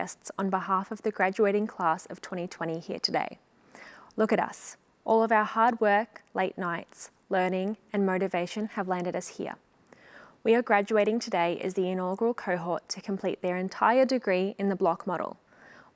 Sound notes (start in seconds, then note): none